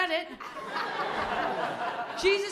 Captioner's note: laughter